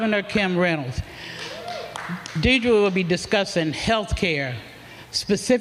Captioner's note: applause